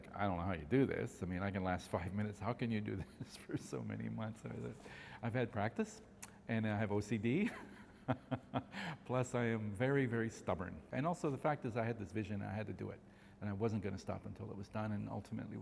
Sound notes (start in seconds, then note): 7.5 laughs